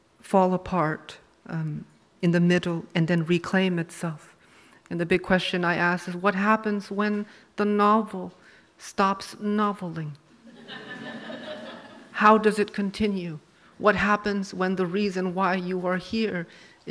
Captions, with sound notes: fall apart in the middle, and then reclaim itself. And the big question I asked is what happens when the novel stops noveling? (audience laughs) How does it continue? What happens when the reason why you are here